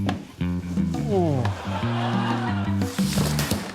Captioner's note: groans; laughter